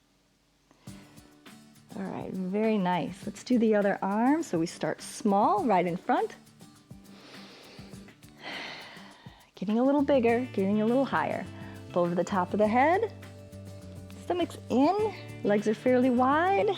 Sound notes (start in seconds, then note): 7.0 inhales and exhales